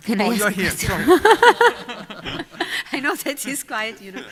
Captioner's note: laughter